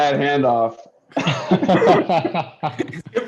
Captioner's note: laughter